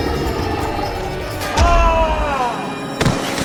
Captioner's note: screams